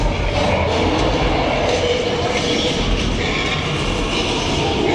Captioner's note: King Kong roaring